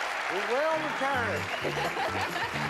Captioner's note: laughs